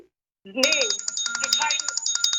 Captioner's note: bell ringing